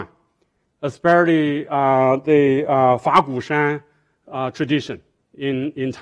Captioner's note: speaking foreign language